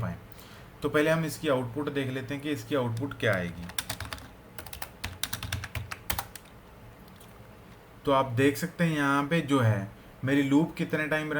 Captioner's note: typing